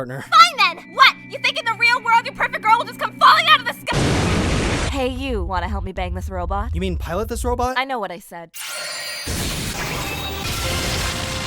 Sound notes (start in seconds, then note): 3.7 perfect girl falling out of the sky noises; 9.2 explosions, transformation noises